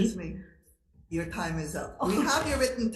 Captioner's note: laughs